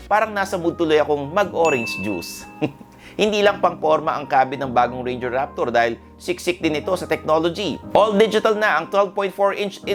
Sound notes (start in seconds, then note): 2.4 chuckles